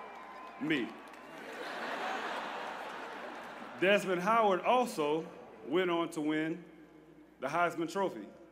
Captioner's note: laughter